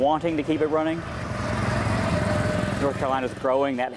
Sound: engine chugging

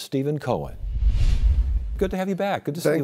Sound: logo whooshing

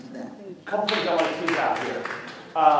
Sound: clapping

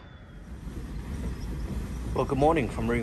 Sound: wind whistling

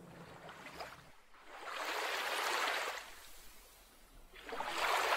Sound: gently moving water

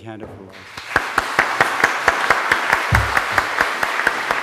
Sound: applause

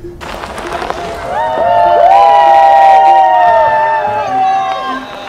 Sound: cheering

